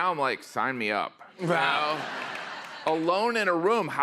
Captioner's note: laughter